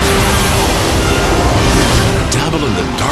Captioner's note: dark magic swooshes